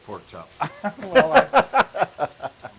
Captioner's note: laugh